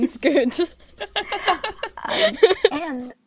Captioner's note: hosts laugh